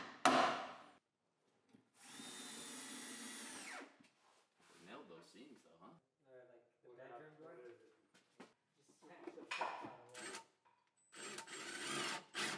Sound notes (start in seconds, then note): 2.0 drill; 6.3 work crew speaking